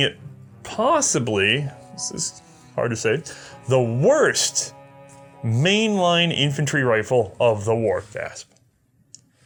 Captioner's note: gasp